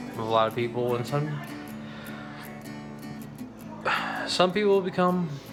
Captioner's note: sighs